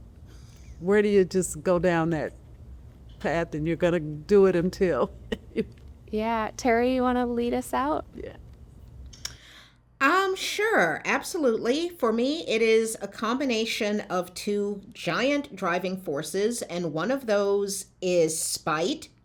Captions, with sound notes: where do you just go down that path and you're gonna do it until [Laughter] Yeah, Terri you want to lead us out? Sure, absolutely for me it is a combination of of two giant driving forces and one of those is spite